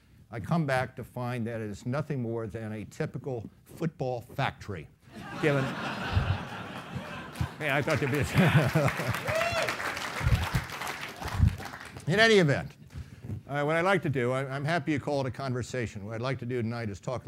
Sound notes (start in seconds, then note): 4.8 clapping; 5.1 laughing